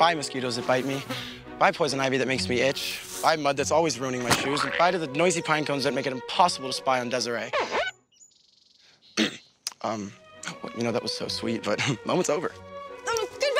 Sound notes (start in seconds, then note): 7.3 record skipping; 9.1 cough